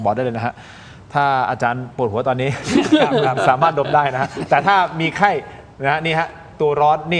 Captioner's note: laughter